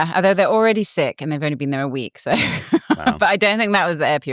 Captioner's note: laughs